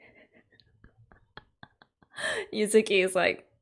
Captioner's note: laughs